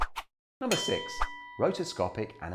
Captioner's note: bell rings